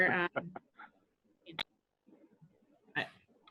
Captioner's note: laugh loudly